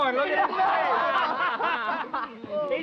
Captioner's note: men laughing